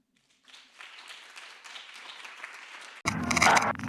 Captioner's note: applause; audience applauds